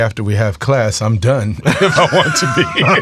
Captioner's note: all laughing